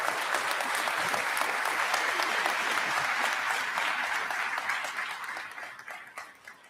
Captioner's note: applause